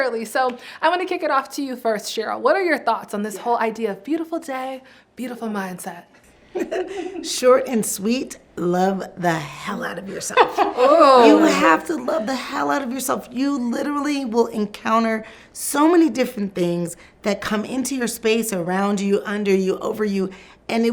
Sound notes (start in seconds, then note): 6.6 laughs